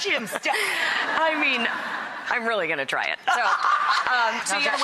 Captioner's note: audience laughs; audience laughs